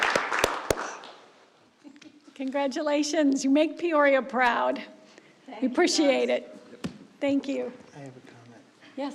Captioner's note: applause